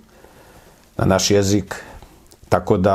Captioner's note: Serbian language